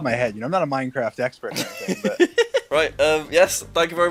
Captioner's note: laughs